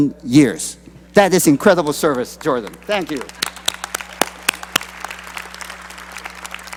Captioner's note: applause